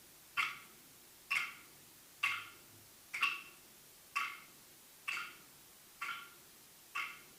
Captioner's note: sticks banging rhythmically continues